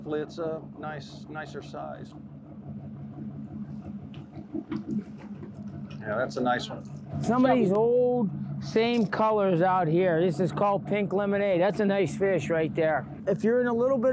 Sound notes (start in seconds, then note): 5.1 water splashes